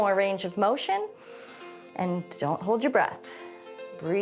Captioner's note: inhales